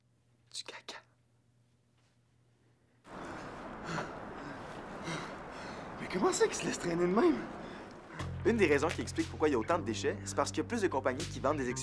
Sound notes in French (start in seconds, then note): 3.8 halètements